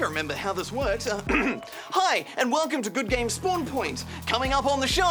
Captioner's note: clears throat